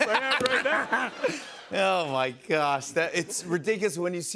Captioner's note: laughter